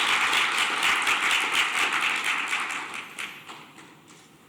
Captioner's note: applause